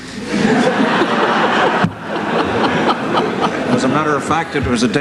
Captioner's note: laughter